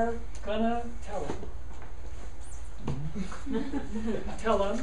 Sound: students laughing

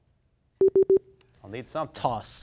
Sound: timer beeps

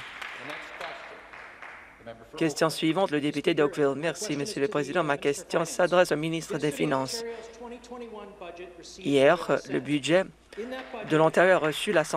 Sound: some Applause

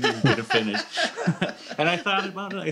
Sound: laughter

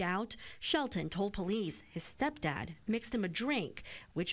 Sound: breathes; breathes

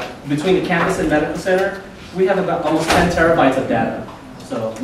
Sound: loud bang drowns out speaker

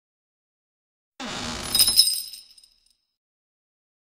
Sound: sound of bell

